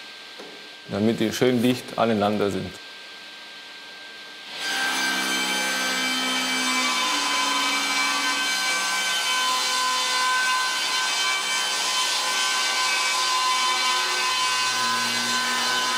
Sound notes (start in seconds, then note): 5.6 loud sawing noise